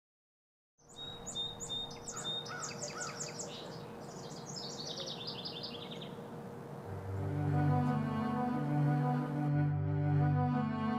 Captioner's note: birds chirping